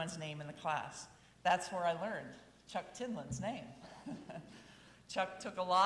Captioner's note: chuckles